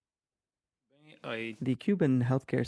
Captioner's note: speaking French